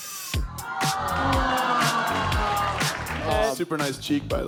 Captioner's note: crowd exclaiming